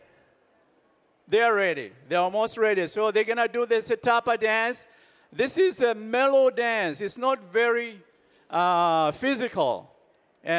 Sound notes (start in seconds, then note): none